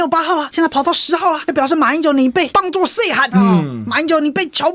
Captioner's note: Taiwanese